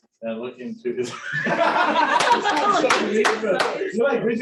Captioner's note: laughter